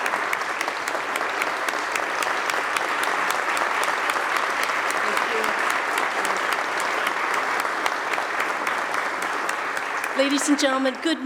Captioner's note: applause